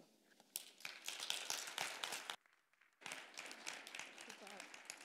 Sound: attendees applauding

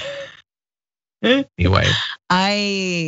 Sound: laugh

